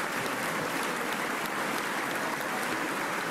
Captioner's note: applause